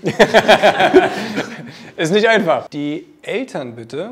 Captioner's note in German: Lachen